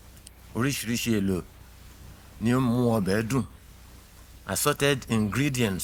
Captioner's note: speaking in foreign language